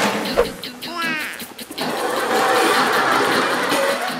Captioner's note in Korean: 푸핫